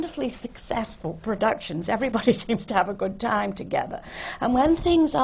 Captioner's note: laughs